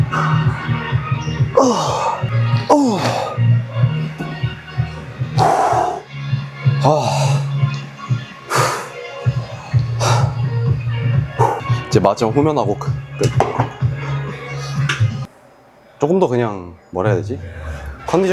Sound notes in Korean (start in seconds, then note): 8.5 콧방귀